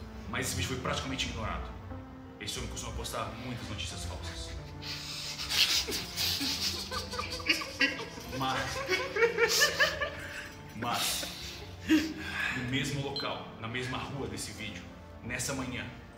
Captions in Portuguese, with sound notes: Mas esse vídeo foi praticamente ignorado, esse homem costuma postar muitas notícias falsas. [risadas] Mas, no mesmo local, na mesma rua desse vídeo, nessa manhã,